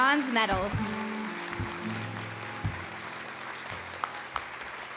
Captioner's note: applause